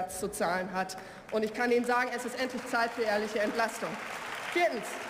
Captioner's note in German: Beifall